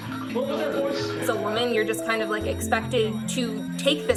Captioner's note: male voices yelling